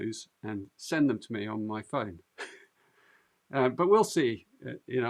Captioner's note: laughs